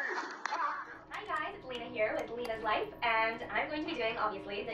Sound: computer sound

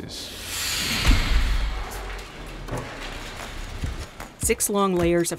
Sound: machines whooshing

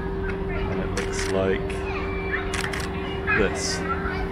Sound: shutter sound

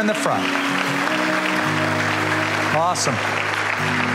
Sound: applause

